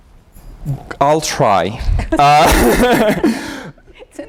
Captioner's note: laughter